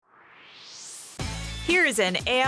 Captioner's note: swoosh